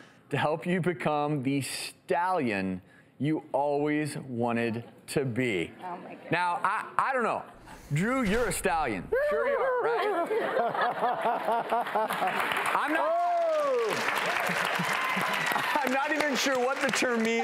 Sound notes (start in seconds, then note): 9.3 neighs; 10.7 laughs; 13.6 audience applause